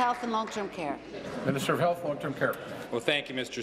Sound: applause

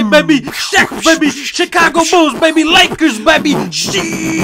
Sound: fighting noises; exploding noises

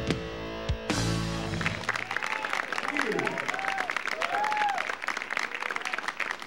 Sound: audience applauding

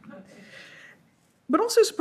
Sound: audience laughs

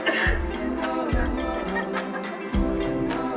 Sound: woman laughing in background

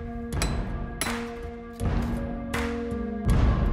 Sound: intense music; hammer knocking

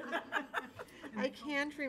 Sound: laughter

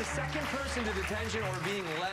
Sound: applause

